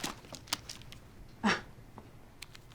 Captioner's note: scoffs